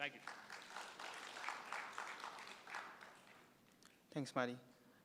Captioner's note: applause